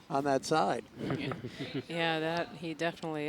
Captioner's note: laughing